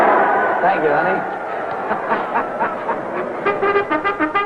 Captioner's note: crowd cheering